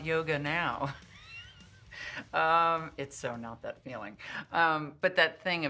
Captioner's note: risas